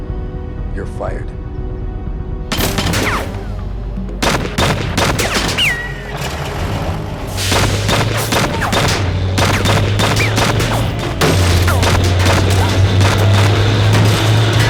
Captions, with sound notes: - You're fired. (guns firing) (dramatic music)